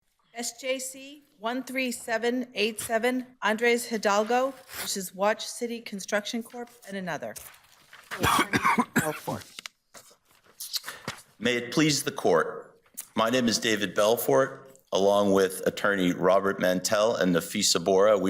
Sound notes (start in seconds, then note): 8.1 coughs